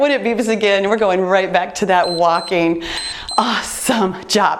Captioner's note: timer beeps